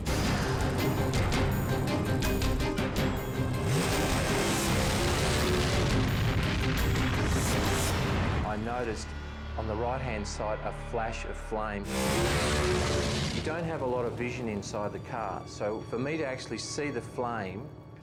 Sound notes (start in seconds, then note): 0.1 tense music continues; 3.0 engine roars; 3.7 flames whooshing; 11.8 engine roars